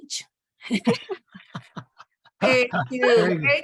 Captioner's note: laughter